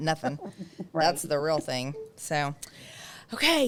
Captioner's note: laughs